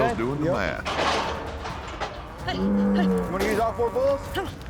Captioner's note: gate clanking